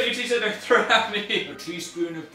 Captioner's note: laughs